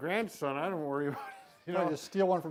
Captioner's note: laughing